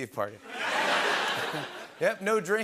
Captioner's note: laughter